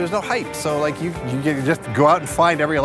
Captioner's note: stammers